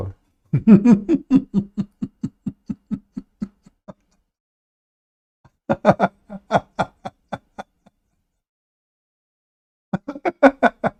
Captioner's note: Ketawa